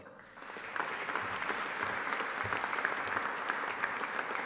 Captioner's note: audience applauding